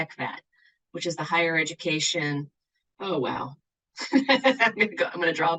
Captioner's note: laughs